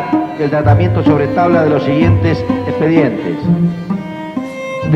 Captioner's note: speaking Spanish